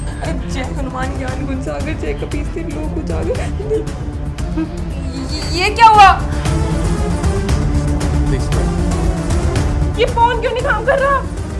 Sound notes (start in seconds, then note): 0.6 chanting